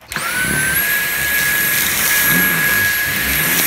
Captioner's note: vacuum noises